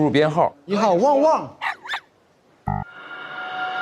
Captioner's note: woof, woof